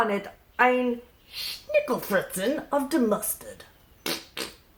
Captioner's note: speaking in foreign language